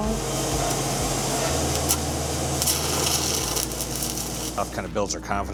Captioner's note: welder crackling